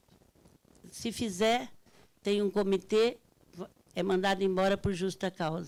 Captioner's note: speaking Portuguese